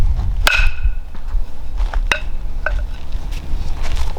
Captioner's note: poles clank